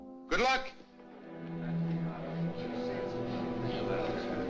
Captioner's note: guests Chattering